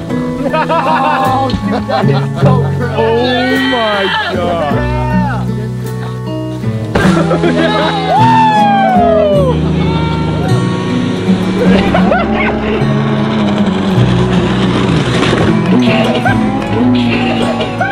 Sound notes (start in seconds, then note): 0.3 laughing; 6.0 yelling; 7.6 cheering; 10.2 screaming; 11.4 laughing; 14.1 engine revving